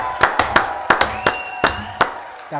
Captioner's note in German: Jubel, Pfiffe